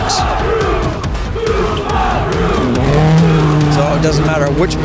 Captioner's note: crowd cheers